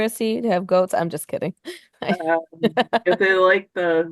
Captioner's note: laughs